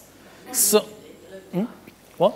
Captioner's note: Neville-Jones speaking faintly